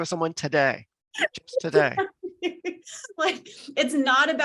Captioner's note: laughs